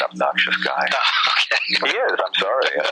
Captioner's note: laughing